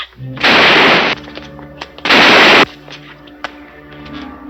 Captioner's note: gunshots blasting